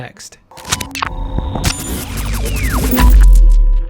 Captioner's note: glitch, static